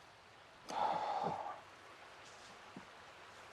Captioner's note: exhaling